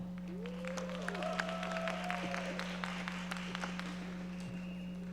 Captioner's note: audience applauding